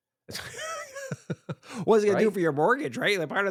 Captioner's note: laughs